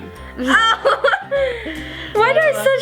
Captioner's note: both laugh